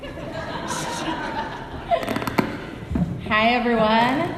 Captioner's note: laughing